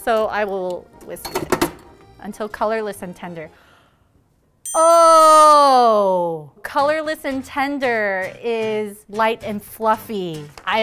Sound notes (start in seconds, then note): 4.6 idea dinging